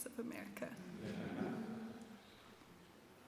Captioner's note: laughter